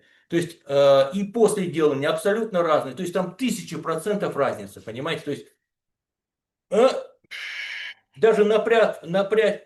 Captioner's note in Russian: тяжело вздыхает